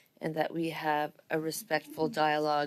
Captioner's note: speaking French